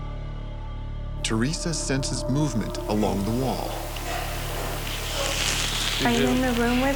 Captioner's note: voiceover